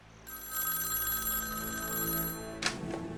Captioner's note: phone ringing